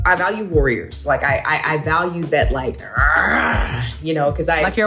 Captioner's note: grunts